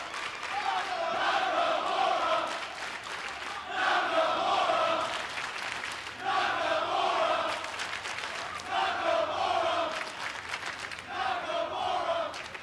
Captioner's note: fans chanting